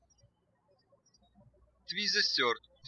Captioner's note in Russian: птички щебечут